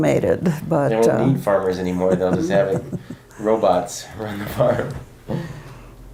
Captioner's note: laughs